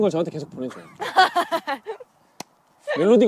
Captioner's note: laughing